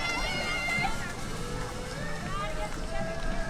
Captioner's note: crowd cheering